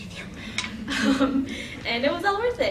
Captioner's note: laughing